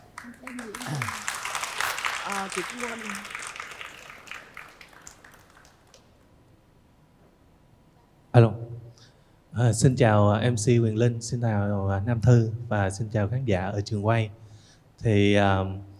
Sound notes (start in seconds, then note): 1.6 applause